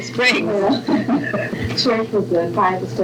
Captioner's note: laughter